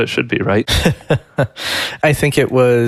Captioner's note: laughing